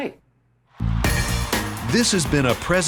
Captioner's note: crowd cheering; inspiring rock music